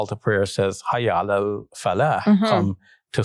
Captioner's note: speaking in foreign language